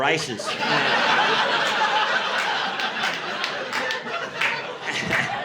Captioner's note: audience laughing